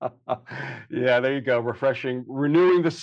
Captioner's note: laughs